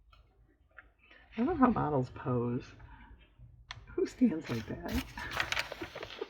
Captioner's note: laughs